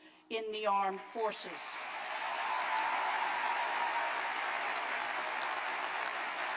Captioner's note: cheers and applause